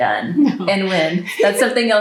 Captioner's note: laughs